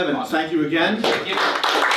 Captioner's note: applause